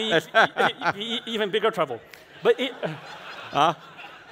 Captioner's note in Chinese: 哈哈